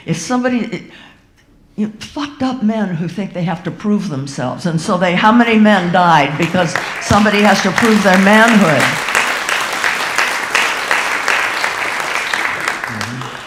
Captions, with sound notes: If somebody, fucked up men who think they have to prove themselves, and so they, how many men died because somebody has to prove their manhood. (audience applauding)